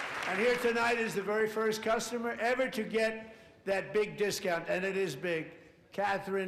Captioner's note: applause